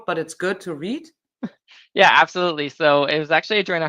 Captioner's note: chuckles